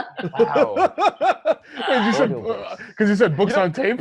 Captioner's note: laughter